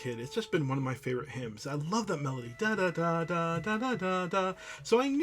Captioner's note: hums